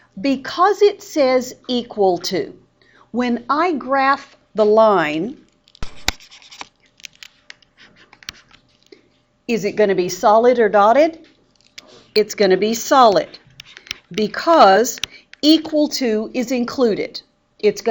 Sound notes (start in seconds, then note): 5.8 mouse scribbles